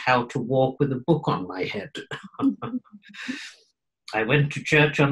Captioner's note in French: Rires